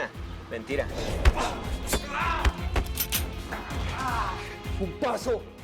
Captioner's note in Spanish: Sonido al cargar el arma